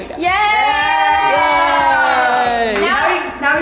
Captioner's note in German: Familienjubel